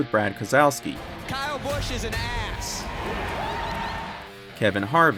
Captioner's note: crowd Cheering